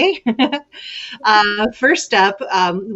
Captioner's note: lady chuckles